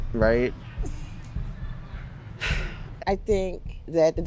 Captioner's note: sighs